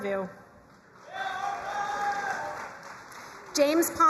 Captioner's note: crowd cheering and applauding